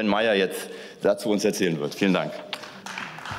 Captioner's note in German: Beifall